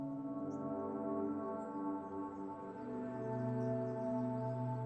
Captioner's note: soft dramatic music; birds chirping